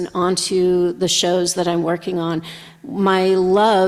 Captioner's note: none